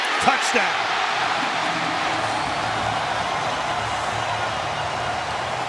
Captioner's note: cheering